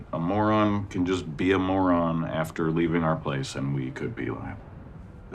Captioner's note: none